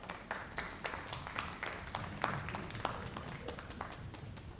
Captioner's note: audience applauding